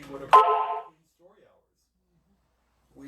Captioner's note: phone alert